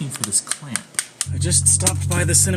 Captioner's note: clamp snaps